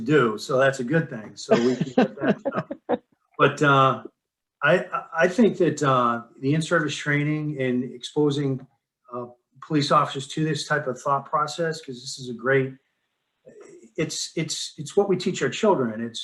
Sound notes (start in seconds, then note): 1.5 laughing